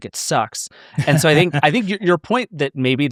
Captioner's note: laughing